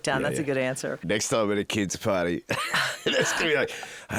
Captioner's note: laughs